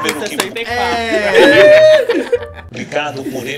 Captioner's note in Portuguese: risos